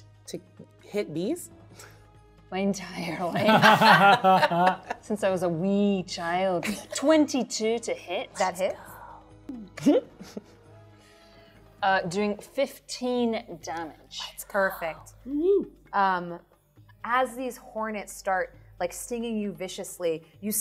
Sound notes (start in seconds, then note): 3.3 participants laughing